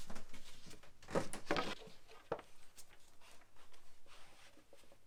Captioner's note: blocks clanging